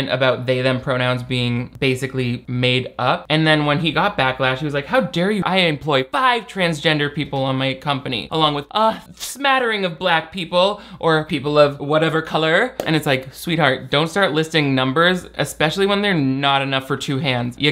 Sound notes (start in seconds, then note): none